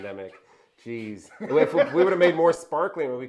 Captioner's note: laughing